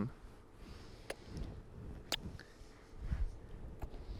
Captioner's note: kissing sounds